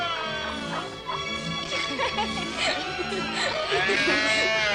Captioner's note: laughter